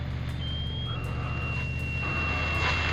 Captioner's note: alarm